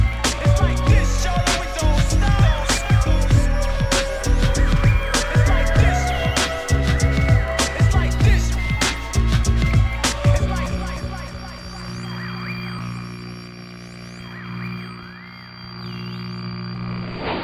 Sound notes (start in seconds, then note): 13.1 static buzzes